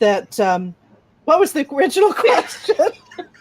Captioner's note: laughing